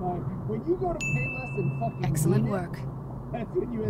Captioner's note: ding